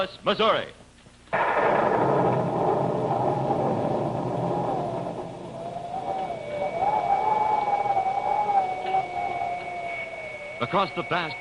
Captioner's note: erie wind